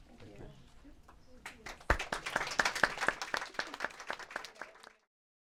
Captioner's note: applause